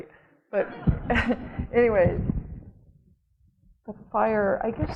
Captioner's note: audience laughing